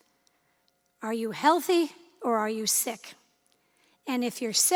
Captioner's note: none